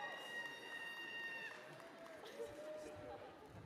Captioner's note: cheers and applause